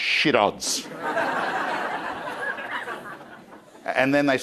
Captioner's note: crowd laughing